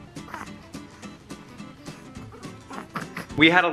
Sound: cooing

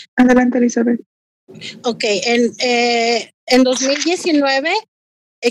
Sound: speaking foreign language

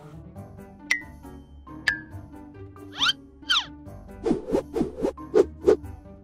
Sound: playful music; swooshing noises

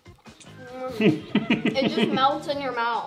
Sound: chuckling

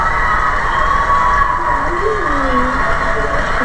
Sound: whistles

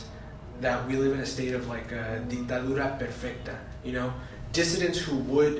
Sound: spanish

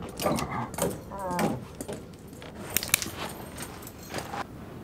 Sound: groaning

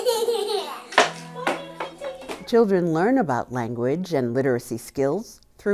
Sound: laughing

